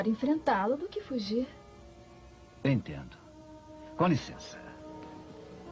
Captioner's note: speaks Spanish